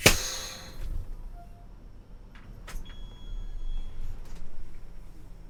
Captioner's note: parking gear sliding